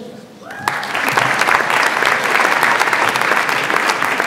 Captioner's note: audience applauds